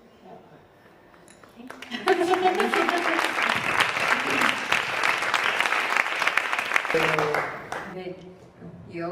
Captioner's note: Aplaudiments